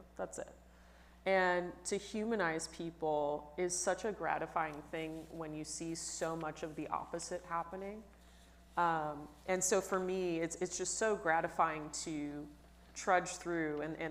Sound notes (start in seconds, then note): none